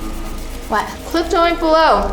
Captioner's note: speaking with mouth full